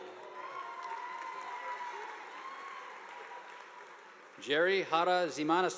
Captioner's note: audience applauding